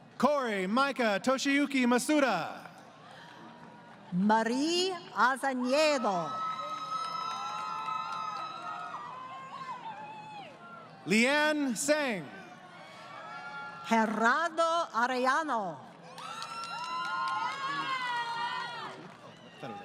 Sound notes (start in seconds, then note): 5.7 crowd Cheering; 16.0 crowd Cheering